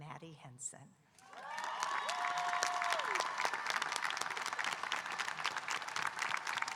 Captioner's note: audience cheering and applauding